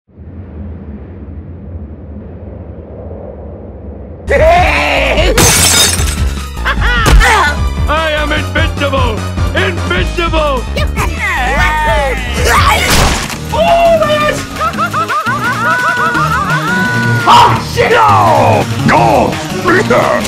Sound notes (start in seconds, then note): 4.5 screams of pain